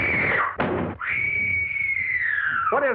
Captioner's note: screaming; thud; screaming